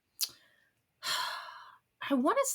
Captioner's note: sighs